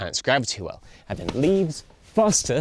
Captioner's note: racquet smacks